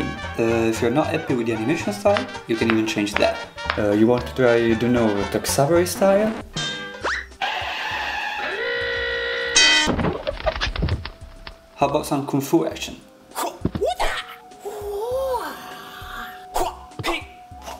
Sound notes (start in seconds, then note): 7.0 cartoon sound effects; 13.8 shouts